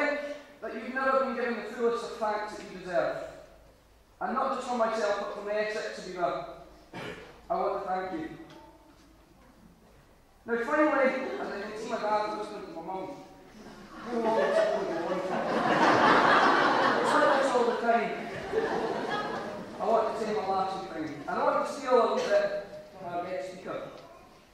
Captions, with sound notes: But I think you've never been given the fullest of thanks you deserve, and not just from myself, but from the S6, Habiba. I want to thank you. Now, finally, as I can see my dad's whispering to my mum, "How long is this going to go on for?" (AUDIENCE LAUGHS)"He's like this all the time!" I want to say my last few things. I don't want to steal a wee bit from our guest speaker.